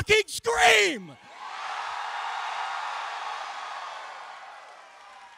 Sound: cheering

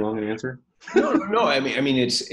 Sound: laughs

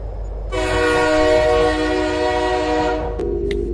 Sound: train horn beeps

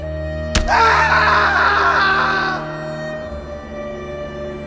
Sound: ominous music; York screaming

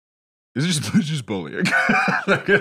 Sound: laughs

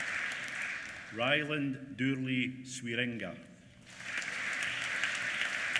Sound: applause

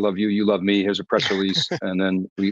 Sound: chuckles

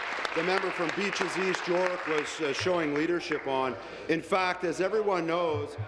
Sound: applause

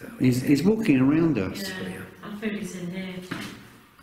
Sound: pat; shoe tapping

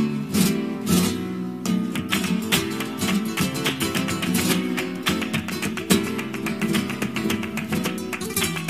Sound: totally not suspicious "clapping"

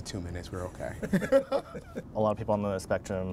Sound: laughter

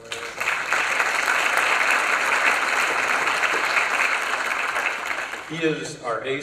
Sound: applause

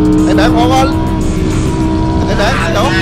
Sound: engine rumbling continues

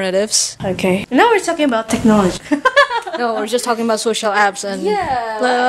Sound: laughs

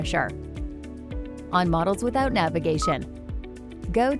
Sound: device beeping

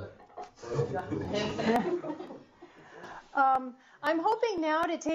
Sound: laughing

